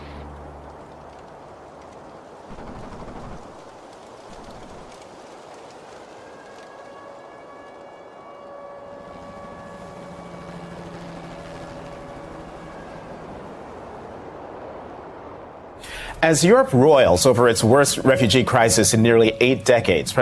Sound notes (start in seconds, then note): 0.2 war sounds; 5.4 air alarm